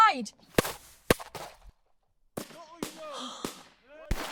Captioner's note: guns banging